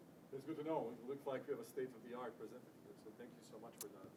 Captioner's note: speaking faintly